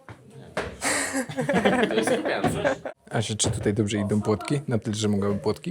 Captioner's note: laughs